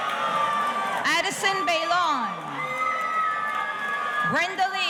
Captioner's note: audience cheering